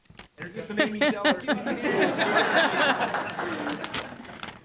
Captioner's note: group laughing